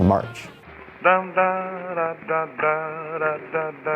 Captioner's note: humming, scatting a tune